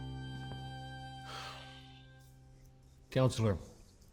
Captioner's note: sighs